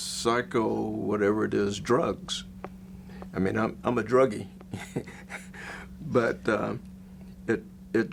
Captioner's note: laughs